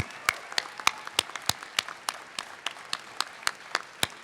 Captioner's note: applause